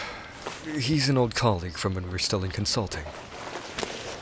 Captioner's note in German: seufz